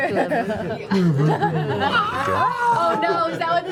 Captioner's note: laughter